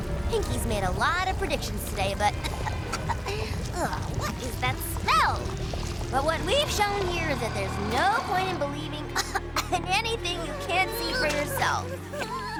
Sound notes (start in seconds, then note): 1.8 coughs; 9.0 coughs